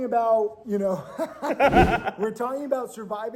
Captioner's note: laughing